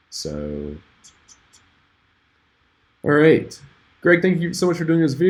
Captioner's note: tuts